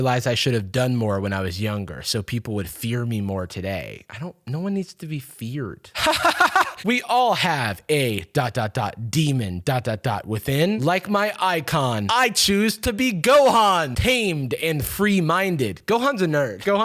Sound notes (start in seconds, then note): 5.9 laughs